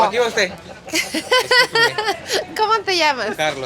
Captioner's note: laughter